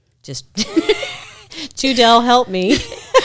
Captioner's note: laughing; laughs